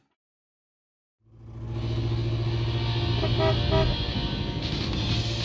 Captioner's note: car engine purring